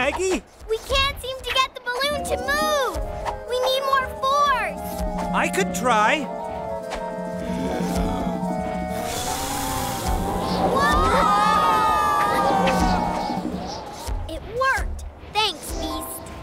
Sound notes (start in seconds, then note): 7.3 deep breath; 8.8 strong blowing